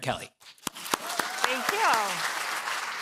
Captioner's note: applause